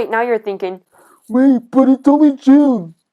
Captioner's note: in a lower voice